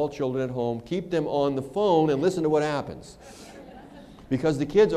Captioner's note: laughter